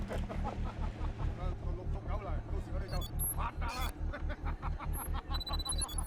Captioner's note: man laughing; man speaking in foreign language; interface whirring